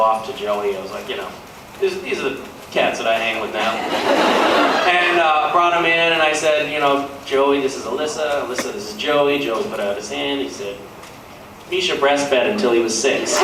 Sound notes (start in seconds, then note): 3.6 laughs